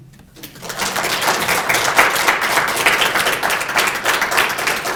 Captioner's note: audience clapping